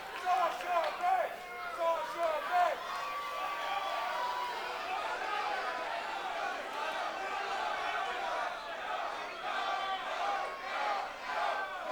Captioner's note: fans chanting